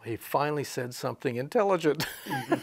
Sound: he chuckles

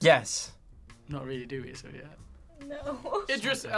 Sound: laughs

